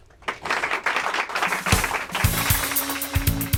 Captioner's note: applause